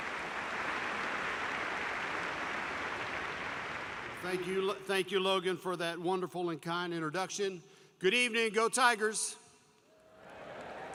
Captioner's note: applause